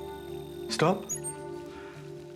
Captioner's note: pulse